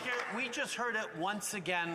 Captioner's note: applause